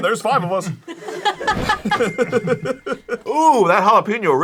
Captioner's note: everyone laughs